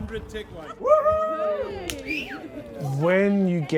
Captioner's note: cheering